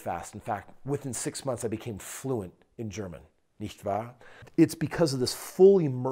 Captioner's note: speaks German phrase